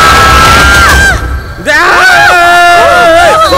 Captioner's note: Everyone screaming